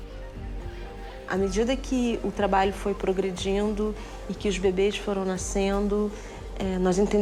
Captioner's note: speaks in foreign language